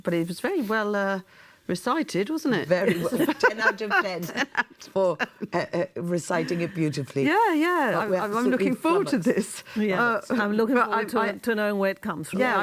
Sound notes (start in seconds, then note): 2.8 laughter